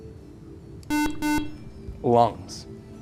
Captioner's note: buzzer